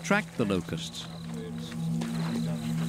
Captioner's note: indistinct chatter